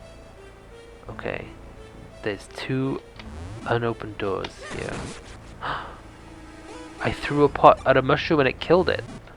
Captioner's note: gasp